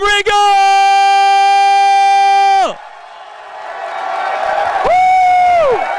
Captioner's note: cheering